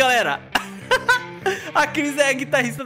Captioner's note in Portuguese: risos